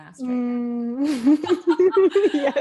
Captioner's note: laughs